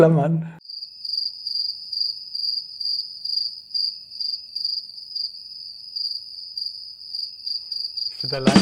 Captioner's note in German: Vogelgezwitscher